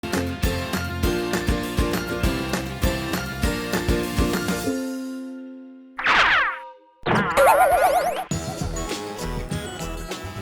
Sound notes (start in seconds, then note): 0.1 bright upbeat music; 6.0 cartoon whizzing sound; 6.0 cartoon springing sound